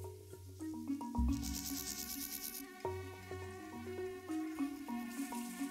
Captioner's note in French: bourdonnement